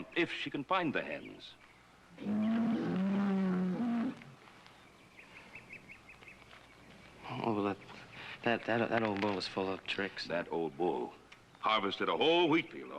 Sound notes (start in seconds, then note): 2.1 bull lowing; 6.5 stuttering